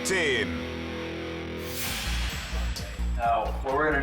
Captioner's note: transition whooshes